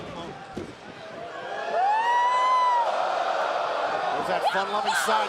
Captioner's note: crowd cheering